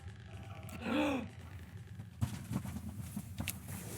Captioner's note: Louie gasps